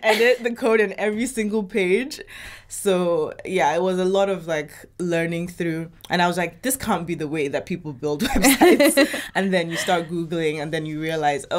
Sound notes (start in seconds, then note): 8.4 chuckles; 9.6 laughs